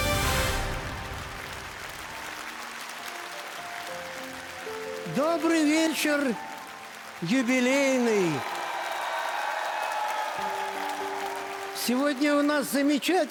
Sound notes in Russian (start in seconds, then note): 0.0 аплодисменты; 9.7 ликование